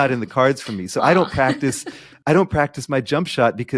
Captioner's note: laughing